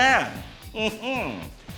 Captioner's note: scoffs